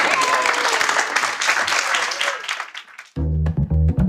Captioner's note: audience applause; upbeat music